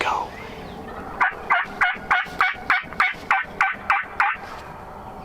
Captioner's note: bird cries